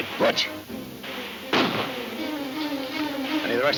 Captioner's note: gun firing